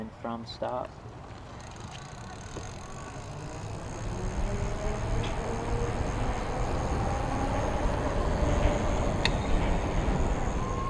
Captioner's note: very quiet motor whirring sound